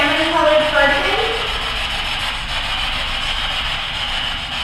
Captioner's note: static buzzing